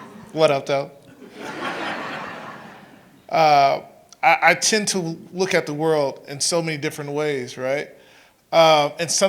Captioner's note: laughter